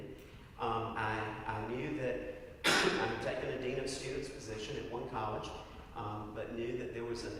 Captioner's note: cough